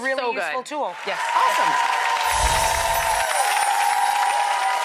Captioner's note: applause